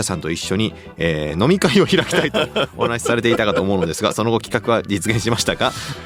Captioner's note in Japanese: 笑い